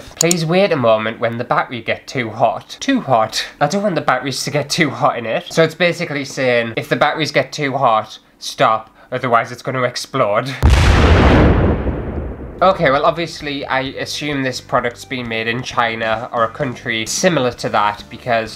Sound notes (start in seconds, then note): 10.6 explosion